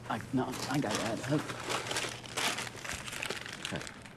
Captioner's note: bags crinkling